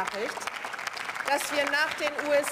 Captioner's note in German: Beifall